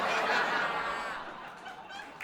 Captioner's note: audience laughing